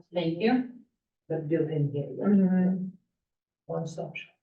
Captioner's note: chatter